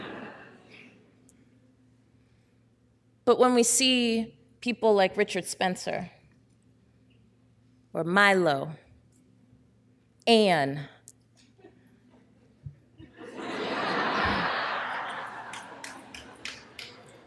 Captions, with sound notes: But when we see people like Richard Spencer, or Milo, Anne. (audience laughing)